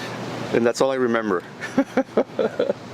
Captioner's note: laughing